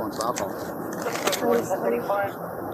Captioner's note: radio chatter